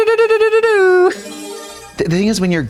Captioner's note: bright chime